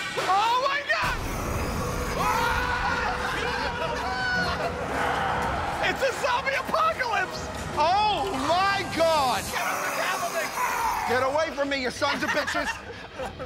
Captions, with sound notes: Oh, my God! [ Growling ] -Oh, my God! -It's a zombie apocalypse! Oh! My! God! Get away from me, you sons a bitches!